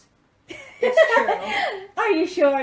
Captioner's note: laughs